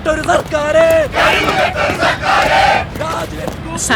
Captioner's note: protesters Sloganeering